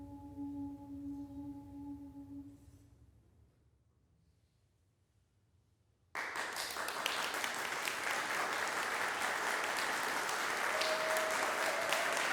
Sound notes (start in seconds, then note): 3.1 silence; 6.1 applause breaks out; 10.4 applause continues, scattered cheers